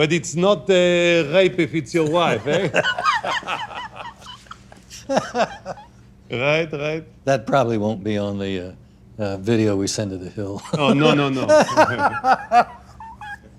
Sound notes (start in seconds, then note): 2.0 both laugh; 10.7 laughs